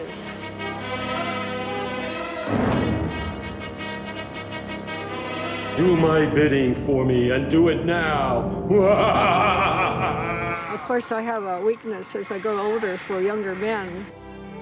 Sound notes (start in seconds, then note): 0.3 dramatic music; 5.8 booming male voice; 8.7 maniacal laughter